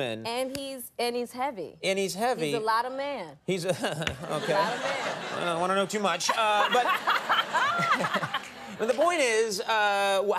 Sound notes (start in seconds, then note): 3.6 Conan chuckling; 3.8 audience laughing; 7.0 Jada and audience laughing